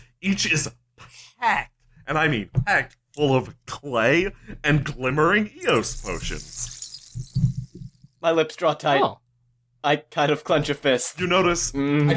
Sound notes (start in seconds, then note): 5.6 fizzing